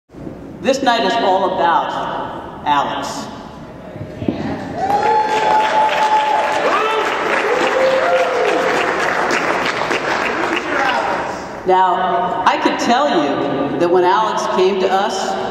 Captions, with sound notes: This night is all about Alex (Cheering and hooting and clapping) Now I can tell you that when Alex came to us